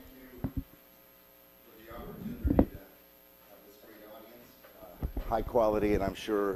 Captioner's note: audio blurs